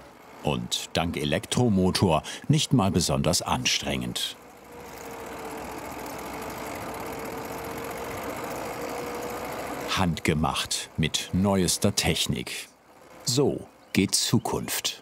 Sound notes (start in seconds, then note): 4.4 soft whirring